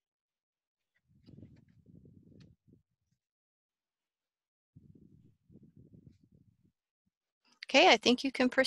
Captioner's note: silence